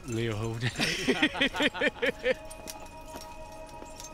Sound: laughing

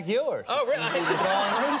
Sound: studio audience laughs

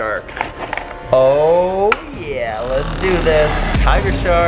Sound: engine rumbling

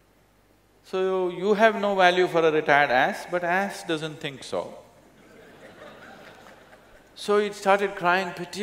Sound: laughter

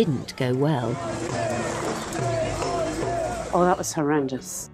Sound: protestors chanting

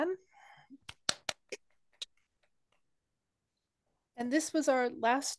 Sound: applause

